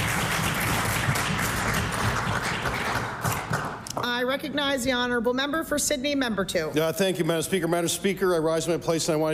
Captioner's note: applause